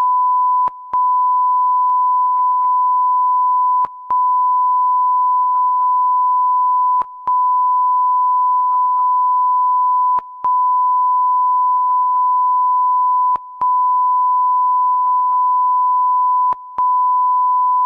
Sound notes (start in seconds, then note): none